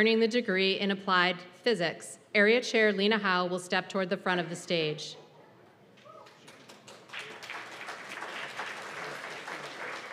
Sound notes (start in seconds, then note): 6.1 applause